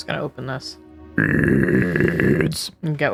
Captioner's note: growling